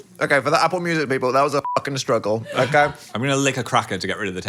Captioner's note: beep